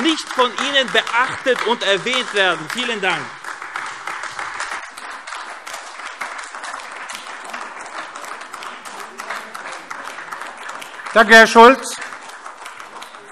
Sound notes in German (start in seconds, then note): 4.2 Beifall AfD